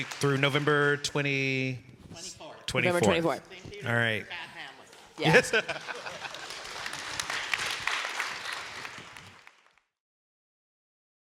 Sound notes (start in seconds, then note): 5.2 laughing; 6.9 audience applauding